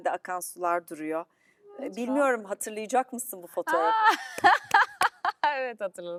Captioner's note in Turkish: kahkaha